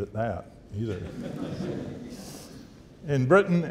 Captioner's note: audience laughing